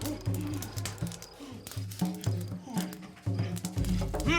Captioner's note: fire crackling